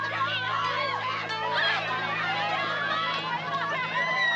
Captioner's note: cheering